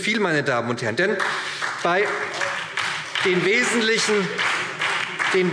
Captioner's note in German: Beifall SPD und DIE LINKE